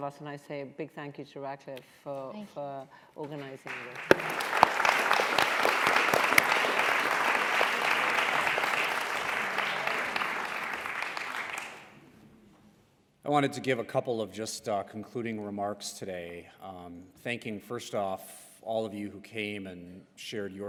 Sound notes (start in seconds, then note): 3.3 applause